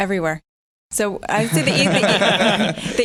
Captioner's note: laughter